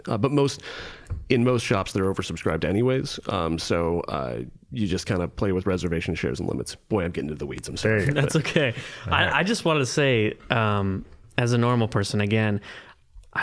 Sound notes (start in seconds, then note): 8.0 chuckling